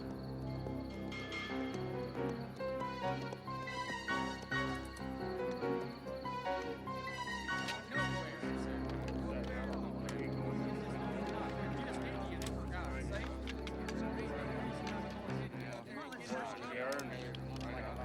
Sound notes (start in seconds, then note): 0.1 hooves clopping; 8.5 men chattering